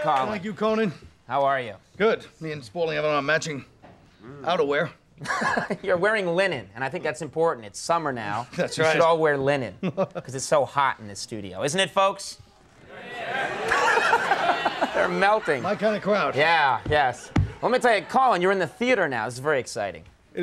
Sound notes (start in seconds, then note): 5.2 laughing; 9.8 Colin laughing; 12.7 Conan laughing; 12.8 audience chattering